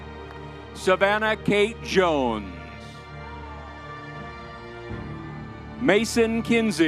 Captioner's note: crowd cheering; crowd cheering